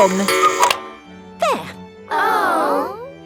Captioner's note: cuckoo clock